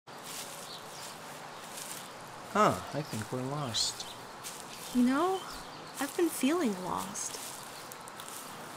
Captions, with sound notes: (sounds of walking through leafs) huh I think we're lost You know ? I've been feeling lost